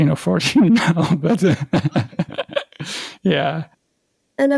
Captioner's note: laugh